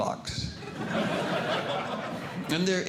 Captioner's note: audience Laughing